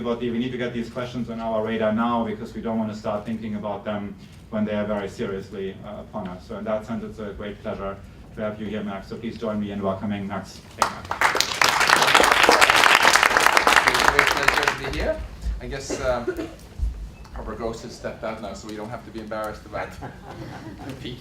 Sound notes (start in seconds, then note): 10.7 applause